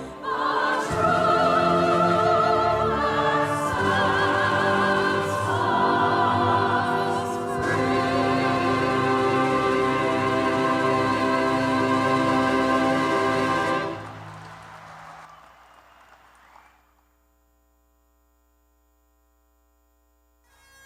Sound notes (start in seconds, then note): 13.8 applause